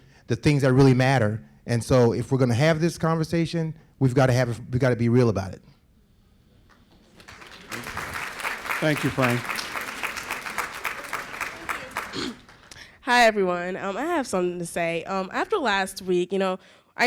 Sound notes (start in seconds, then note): 6.8 applause